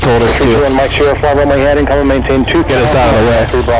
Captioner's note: air traffic radio conversation